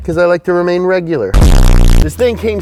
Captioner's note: fart sound